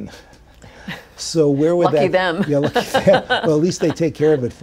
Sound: laughs

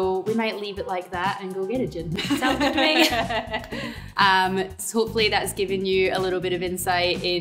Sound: laughs

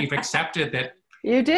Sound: laughs

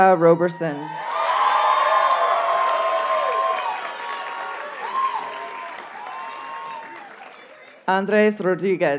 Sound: audience cheers and applauds

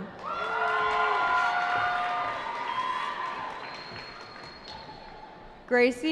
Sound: cheering

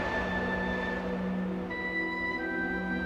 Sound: wind sounds

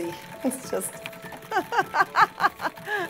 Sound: laughs

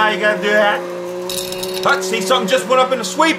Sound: clinking

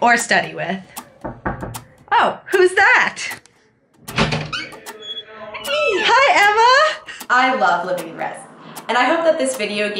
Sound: knocking

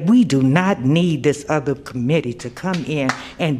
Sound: applause

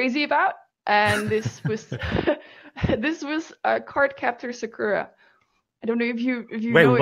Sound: laughs

